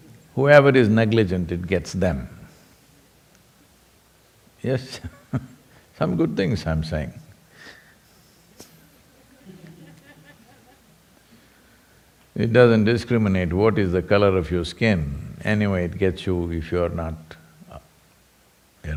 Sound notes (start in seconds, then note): 5.1 laughs; 8.6 few laugh